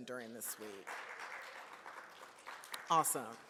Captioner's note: audience claps